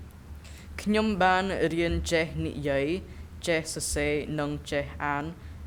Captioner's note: speaking in a foreign language